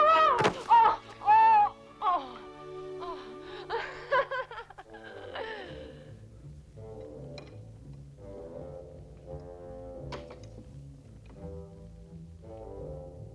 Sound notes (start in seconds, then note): 0.0 Hundra shouts; 1.1 Hundra groaning; 2.9 Hundra laugh; 6.3 austere music